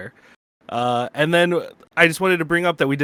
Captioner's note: none